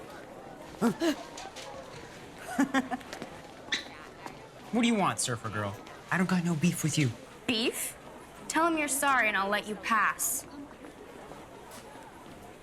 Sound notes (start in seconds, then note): 0.8 grunts; 2.4 chuckles